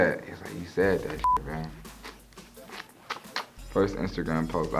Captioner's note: tongue clicks